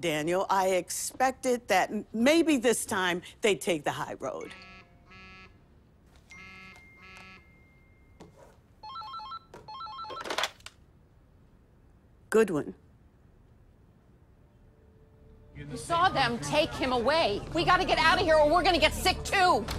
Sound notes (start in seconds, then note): 4.3 cell phone beeps; 6.2 cell phone chimes; 8.7 phone ringing